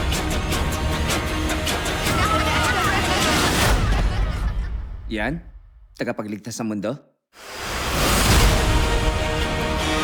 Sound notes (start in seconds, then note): 2.0 people exclaiming; 3.9 music fades out; 7.6 intense music resumes